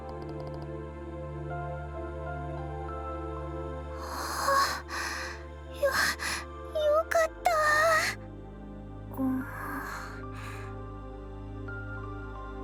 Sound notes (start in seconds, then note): 4.1 phew